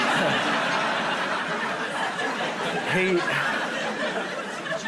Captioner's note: laughter